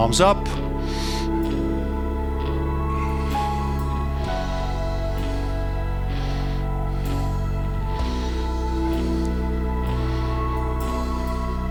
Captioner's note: breathing